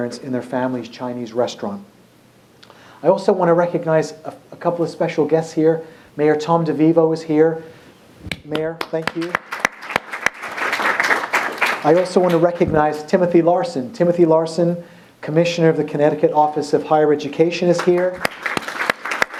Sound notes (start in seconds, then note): 8.5 applause